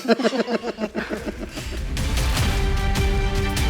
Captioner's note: laughter